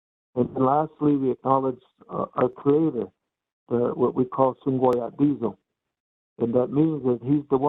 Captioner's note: speaking in native language